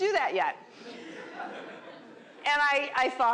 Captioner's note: laughter